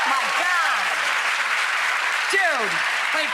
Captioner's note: applause